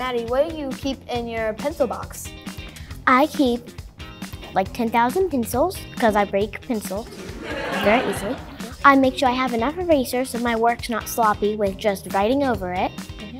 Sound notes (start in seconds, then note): 7.0 audience laughing